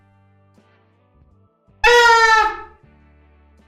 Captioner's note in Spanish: sonido bocina